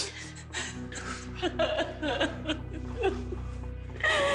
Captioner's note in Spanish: Sollozos